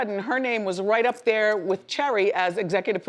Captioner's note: none